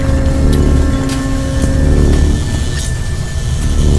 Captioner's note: buzz sound